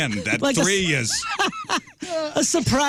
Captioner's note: laughing